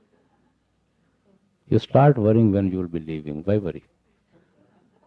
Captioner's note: laughter